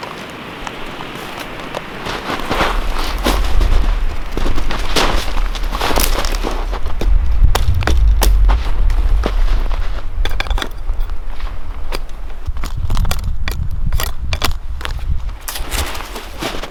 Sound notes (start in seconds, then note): 3.4 snow crunching